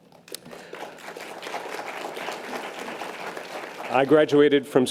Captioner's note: audience applause